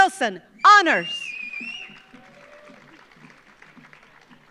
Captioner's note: audience applauds